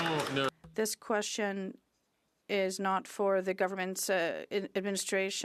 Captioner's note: some Applause